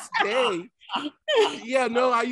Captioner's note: Martin laughing